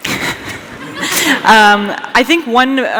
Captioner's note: laughter